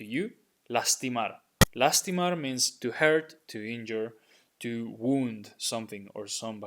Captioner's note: speaking in Spanish